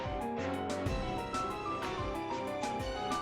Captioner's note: rumble…